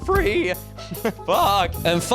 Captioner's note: voice cracks; laughs; voice crack